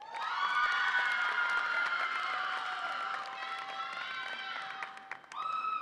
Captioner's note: audience applauds and cheers